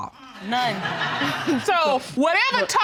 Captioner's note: laughter